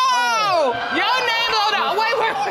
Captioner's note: audience exclaims